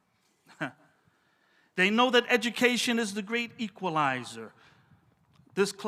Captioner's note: laughs